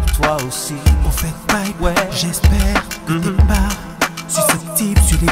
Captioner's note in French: hmm hmm